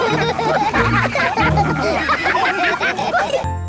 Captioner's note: all laugh